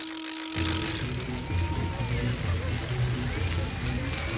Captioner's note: crowd cheering